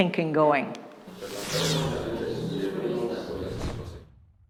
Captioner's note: whoosh whoosh